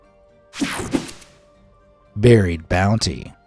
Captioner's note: air whooshing